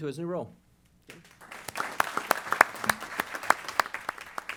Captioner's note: applause